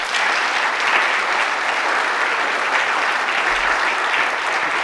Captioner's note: audience applauds